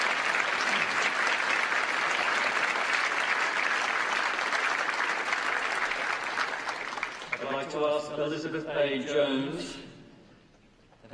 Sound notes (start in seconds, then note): 3.3 applause